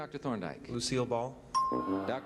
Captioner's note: bell ding